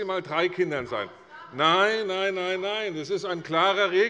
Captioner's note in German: Zuruf